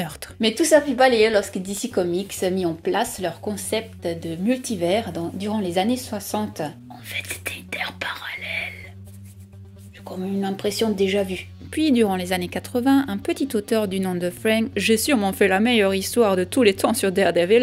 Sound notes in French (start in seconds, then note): 6.3 Chuchotant